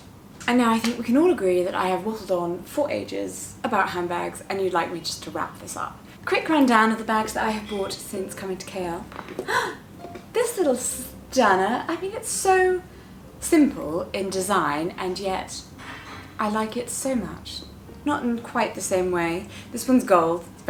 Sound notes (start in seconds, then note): 9.4 gasp